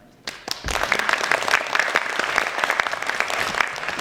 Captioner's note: audience claps